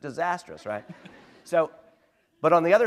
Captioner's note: laughter